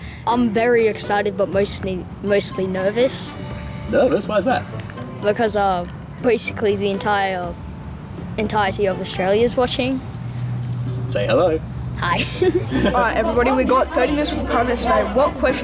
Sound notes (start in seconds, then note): 12.2 chuckles nervously